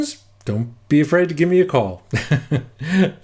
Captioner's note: chuckles